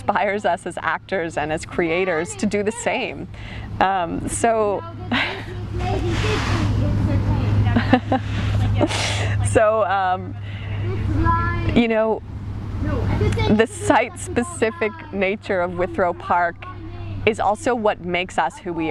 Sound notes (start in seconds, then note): 4.4 laughs